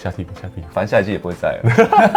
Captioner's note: laughs